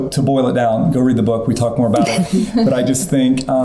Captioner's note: laughing